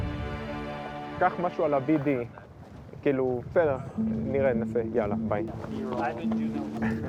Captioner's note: speaking foreign language